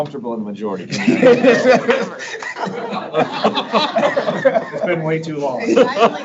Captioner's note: board members laughing